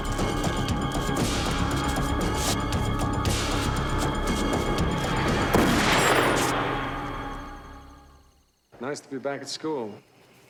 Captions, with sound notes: (gun fires) - Nice to be back at school.